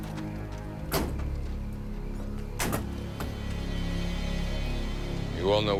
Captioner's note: truck doors slamming